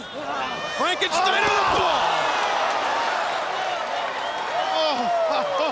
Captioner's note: crowd cheering